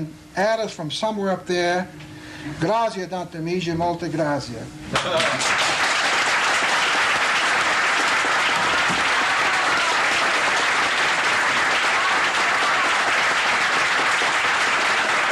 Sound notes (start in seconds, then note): 5.5 in Italian; 9.5 applause